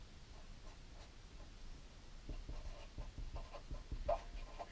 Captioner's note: pen scratching